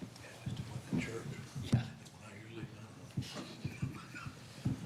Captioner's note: men whispering